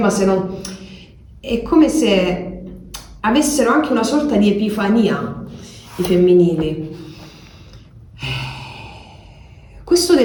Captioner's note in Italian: sospiri